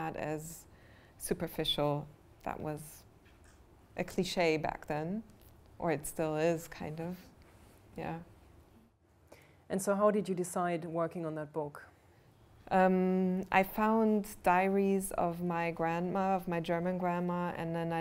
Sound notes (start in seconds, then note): none